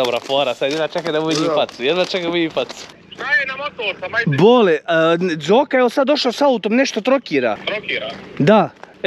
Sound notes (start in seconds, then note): 1.3 new car sound